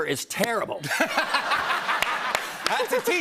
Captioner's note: laughter